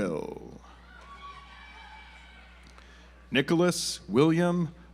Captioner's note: audience applauds